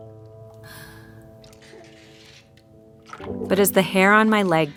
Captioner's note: sighs